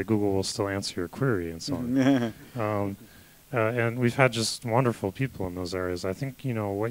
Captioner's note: laughter